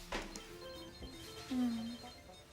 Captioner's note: electronic beeping; sighs